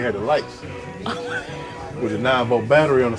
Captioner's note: laughs